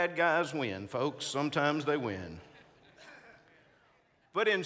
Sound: congregants laughing

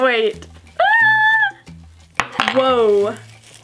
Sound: screams

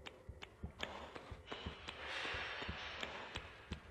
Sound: metalic noises

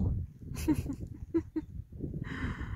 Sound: laughs

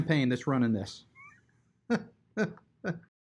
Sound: laughs

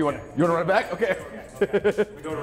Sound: laugh

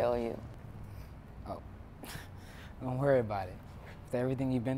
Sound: chuckles

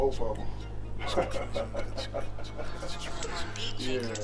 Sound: laughs

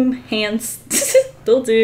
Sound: giggles

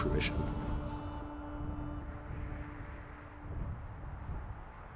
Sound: wind whooshes

